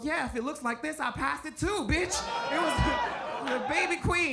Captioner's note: audience groans and laughs